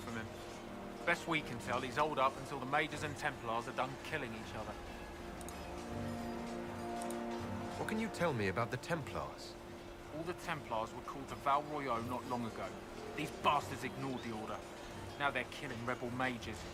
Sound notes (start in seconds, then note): none